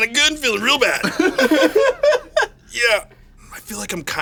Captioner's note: everyone laughs